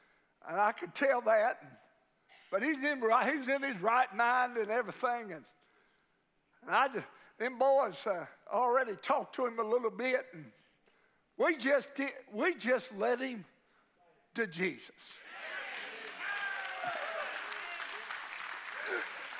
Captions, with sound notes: And I could tell that, but he's in his right mind and everything. And I just, them boys already talked to him a little bit, and we just did. We just led him to Jesus. (congregation cheering)